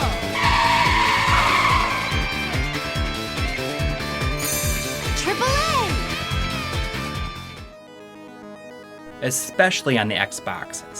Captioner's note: game audio